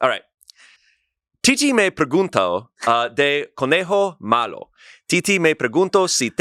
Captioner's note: speaks foreign language